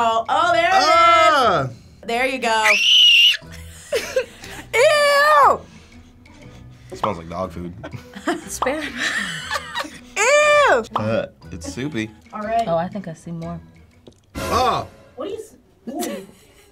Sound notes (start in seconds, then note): 1.1 groaning; 2.6 screaming; 5.4 sniffing; 9.1 cackling; 10.7 bubble popping; 14.4 dramatic tone